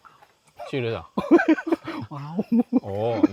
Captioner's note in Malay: ketawa